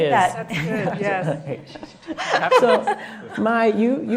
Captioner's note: laughing